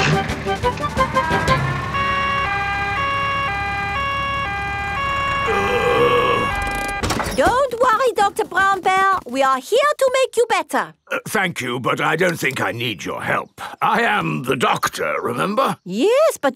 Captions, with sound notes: (SIREN WAILING) (GROANING) Don't worry, Dr. Brown Bear! We are here to make you better! Thank you, but I don't think I need your help. I am the doctor, remember.